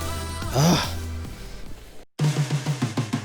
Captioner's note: clears throat; upbeat music